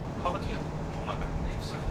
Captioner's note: wind